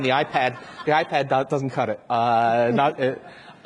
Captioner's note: audience laughs